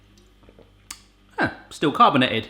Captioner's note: swallows